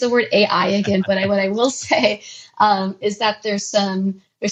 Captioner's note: laughs; laughs